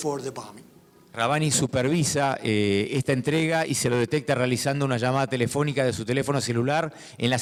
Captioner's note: speaking in foreign language